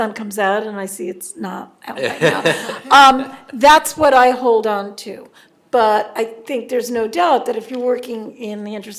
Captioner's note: audience laughs